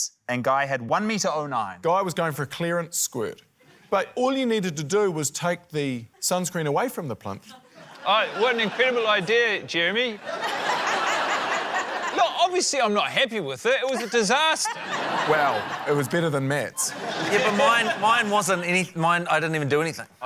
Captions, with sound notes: And Guy had 1.09m. - Guy was going for a clearance squirt. But all you needed to do was take the sunscreen away from the plinth. - Oh, what an incredible idea, Jeremy. (LAUGHTER) Look, obviously, I'm not happy with it. It was a disaster. (LAUGHTER) - Well, it was better than Matt's. - Yeah, but mine― mine wasn't any― mine― I didn't even doanything.